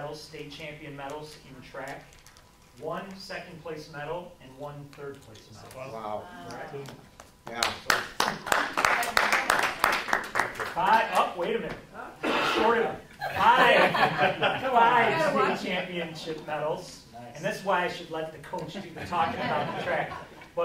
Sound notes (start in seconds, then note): 7.4 clapping